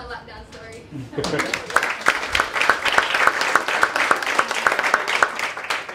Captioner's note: applause